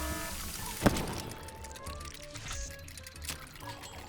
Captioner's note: alarm buzzing; exploding